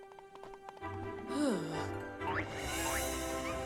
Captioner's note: sighs